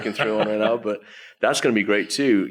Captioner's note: laughs